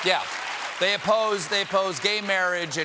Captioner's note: applause